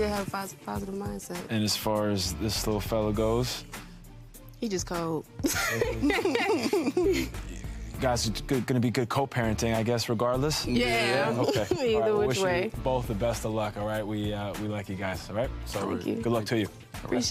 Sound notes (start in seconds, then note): 5.4 both laughing